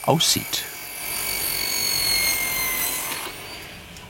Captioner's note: whirring machine noise